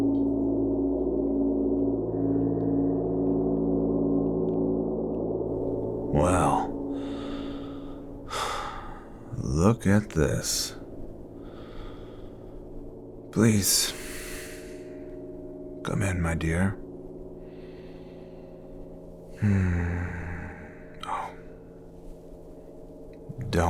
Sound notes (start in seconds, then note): 0.1 suspenseful music continues; 8.2 sighs